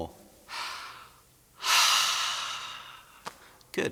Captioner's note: sighs